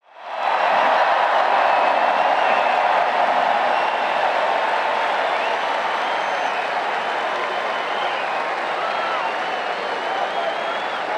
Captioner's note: crowd Cheering